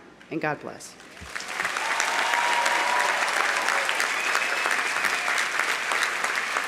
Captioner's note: audience applauding; audience cheering